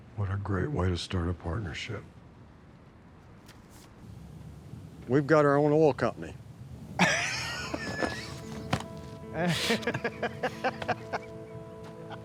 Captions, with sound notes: What a great way to start a partnership. We've got our own oil company. [LAUGHTER]